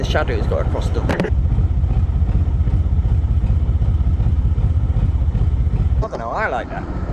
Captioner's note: narrowboat engine sounds